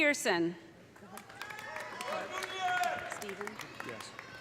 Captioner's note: audience applauding; audience cheering